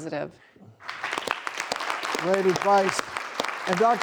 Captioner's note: audience claps